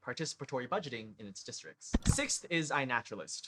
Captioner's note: click